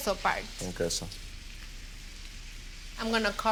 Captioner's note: sizzling